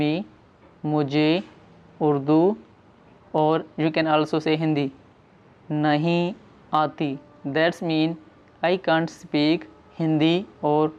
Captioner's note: Hindi